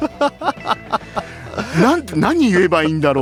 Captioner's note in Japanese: 笑い